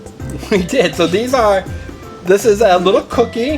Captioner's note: chuckles